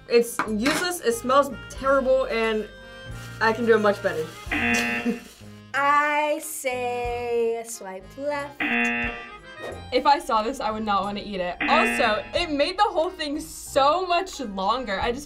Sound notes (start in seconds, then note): 4.5 buzzer rings; 8.2 buzzer rings